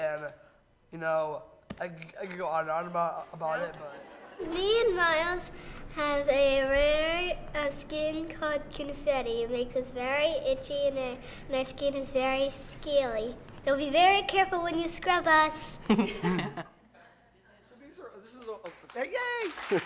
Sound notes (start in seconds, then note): 15.8 laughs; 18.2 audience laughs